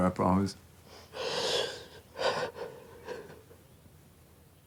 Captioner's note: Dayne sobbing